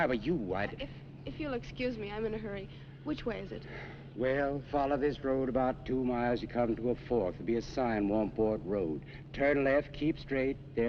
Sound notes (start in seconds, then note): 3.6 sighs